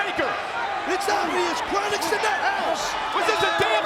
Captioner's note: overlapping chatter